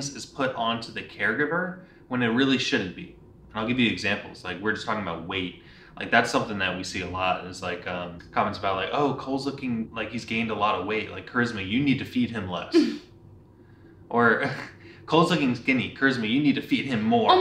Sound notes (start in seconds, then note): 12.7 chuckles